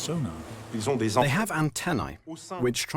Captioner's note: voiceover